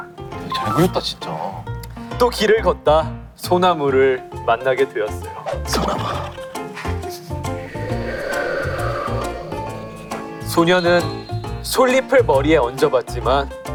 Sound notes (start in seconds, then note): 7.6 A sound effect of wind